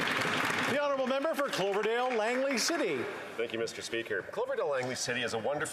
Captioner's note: applause